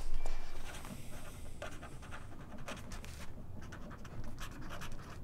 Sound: pen scratching on paper

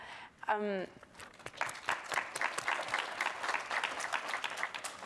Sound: audience applauds

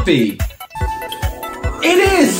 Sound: DSi chime

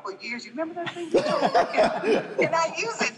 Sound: group laughing

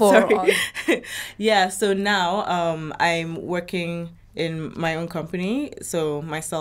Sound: laughs

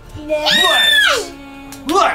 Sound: cheering

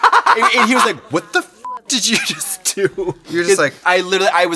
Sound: beep

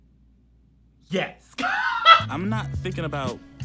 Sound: laughs

